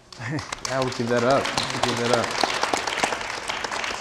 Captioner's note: audience applauding